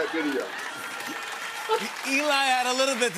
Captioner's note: laughter and applause